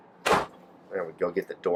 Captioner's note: RV door slams